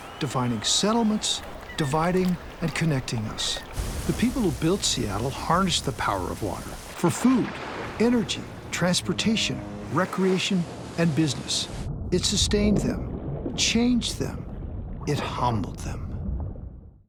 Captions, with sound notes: defining settlements, dividing and connecting us. The people who built Seattle harnessed the power of water for food [splashing], energy, transportation, recreation, and business. It sustained them. Changed them. It humbled them.